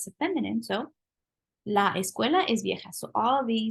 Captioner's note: spanish